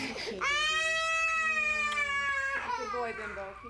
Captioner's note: loud wailing